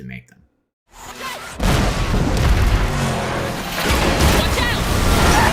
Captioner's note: explosion